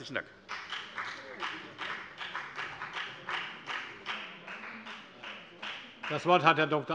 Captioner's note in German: Beifall bei der FDP